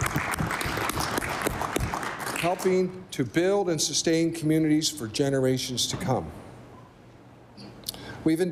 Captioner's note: applause